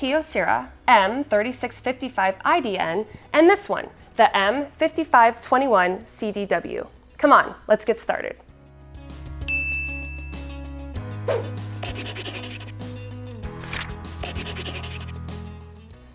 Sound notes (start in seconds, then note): 9.4 bell chimes; 10.8 quiet music; 11.7 pencil scribbling